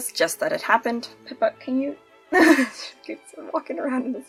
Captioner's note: laughs